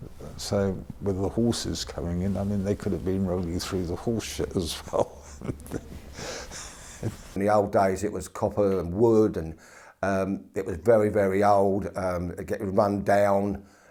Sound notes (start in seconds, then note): 4.5 laughs